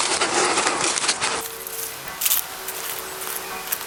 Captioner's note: clanging continues in distance